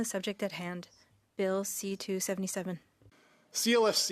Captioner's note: speaking French